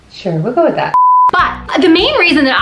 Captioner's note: beep